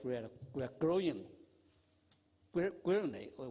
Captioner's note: audio is silent